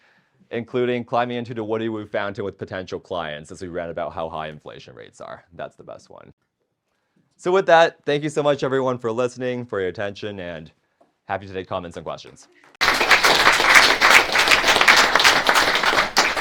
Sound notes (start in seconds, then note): 12.7 audience claps